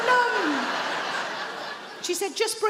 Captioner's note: audience laughs